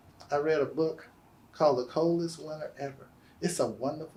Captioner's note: none